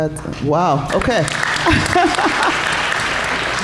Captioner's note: applause